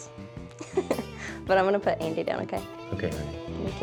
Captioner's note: giggles